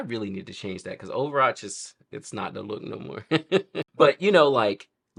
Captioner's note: laughs